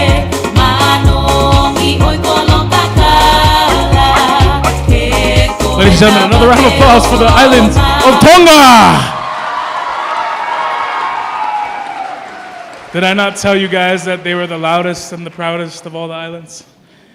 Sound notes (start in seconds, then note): 9.0 cheering